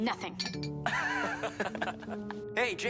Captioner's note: Max and Brax chuckles